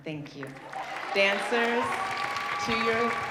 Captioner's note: audience cheering